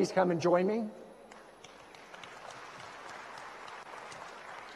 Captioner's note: audience applauds